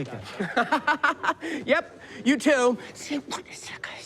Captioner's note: laughs